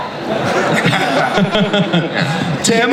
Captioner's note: Chris laughs